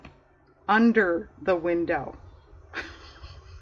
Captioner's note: laughs